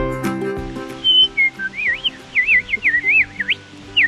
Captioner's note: whistling like a bird